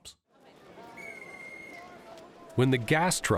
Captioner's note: whistling